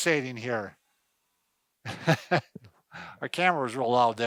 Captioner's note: laughs